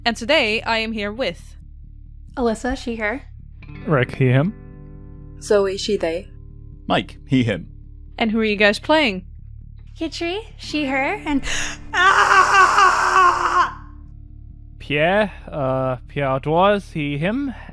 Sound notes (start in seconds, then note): 11.6 screams